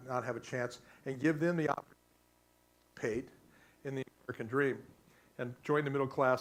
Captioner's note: static